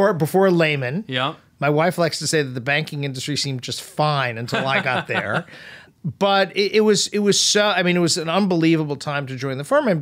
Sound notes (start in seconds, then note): 4.5 laughs